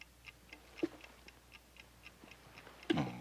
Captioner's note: Betty sobbing